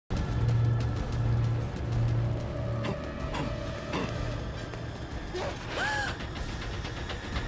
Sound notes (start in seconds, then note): 5.7 Grace gasps